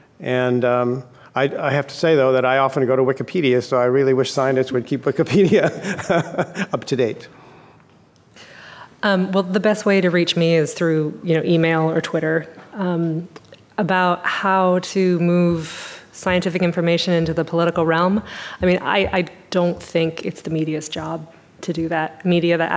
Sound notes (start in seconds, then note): 5.6 laughing